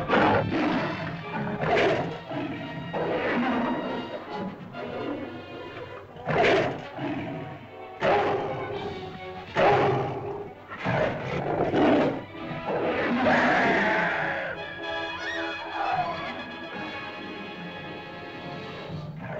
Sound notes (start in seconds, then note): 12.8 caveman screams; 13.4 suspenseful music; 15.2 women scream; 15.2 suspenseful music; 19.0 lizard growls